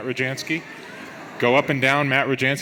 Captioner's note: audience laughs